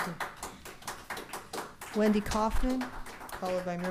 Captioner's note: applause